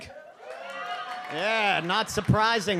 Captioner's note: audience cheers